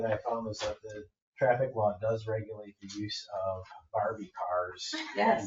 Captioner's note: members laugh